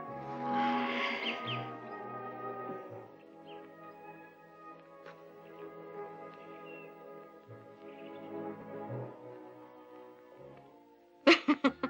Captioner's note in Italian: risate